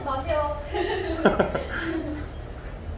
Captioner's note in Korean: ㅎㅎㅎ, ㅎㅎㅎ